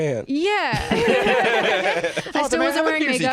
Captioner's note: laugh